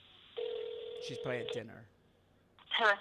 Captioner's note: phone ringing